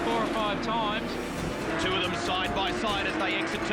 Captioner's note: cars grinding